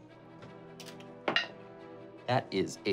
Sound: rolling dice

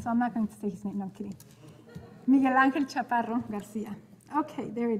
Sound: speaking in foreign language

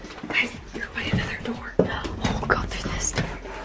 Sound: whispering

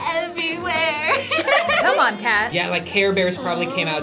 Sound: both laugh

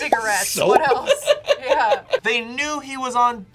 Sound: laughs

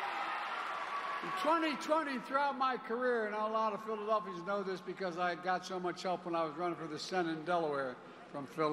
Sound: cheers and applause

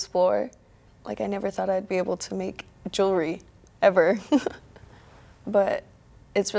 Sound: chuckles

